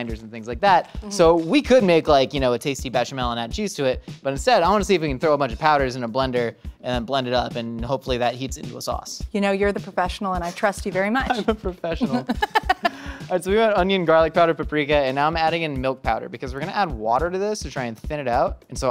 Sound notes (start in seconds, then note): 11.9 laughing; 12.0 laughs